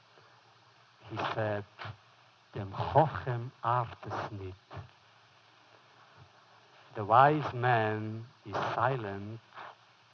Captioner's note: foreign language